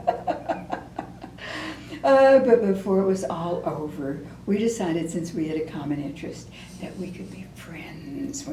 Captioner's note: laughter